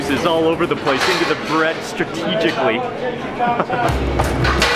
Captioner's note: chuckles; upbeat music